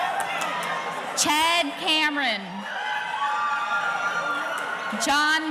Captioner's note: audience cheering